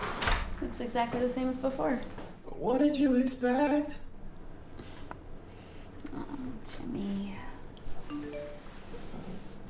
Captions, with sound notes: Looks exactly the same as before (in robotic voice) What did you expect? Oh, Jimmy (phone beeps)